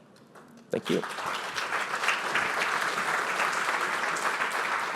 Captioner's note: applause